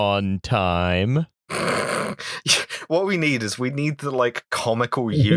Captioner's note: laughter